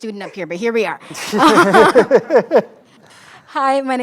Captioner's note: laughter